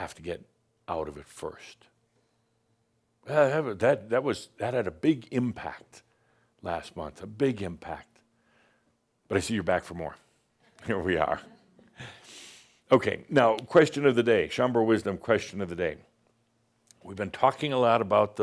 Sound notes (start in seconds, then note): 11.4 a few chuckles